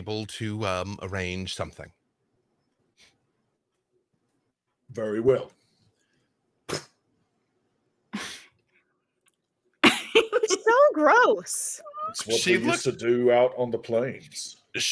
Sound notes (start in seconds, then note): 6.6 spits; 9.8 laughing